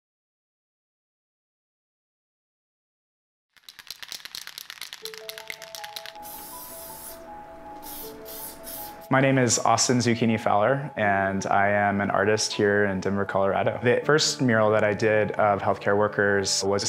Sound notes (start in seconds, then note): 3.5 spray paint can rattle; 5.1 gentle upbeat music; 6.7 spray paint can hissing